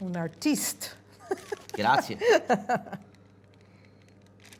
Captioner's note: laughing